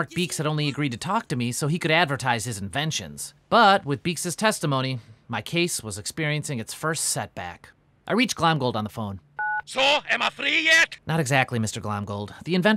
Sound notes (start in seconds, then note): 9.4 phone beeps